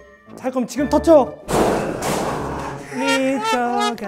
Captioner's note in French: Bang